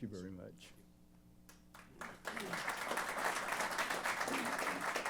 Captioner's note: applause